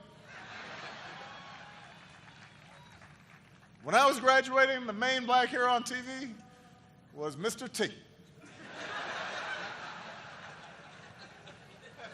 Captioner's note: laughter; laughter